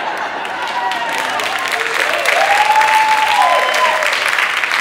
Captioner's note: audience cheering